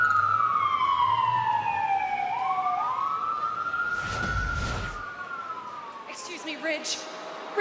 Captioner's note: sirens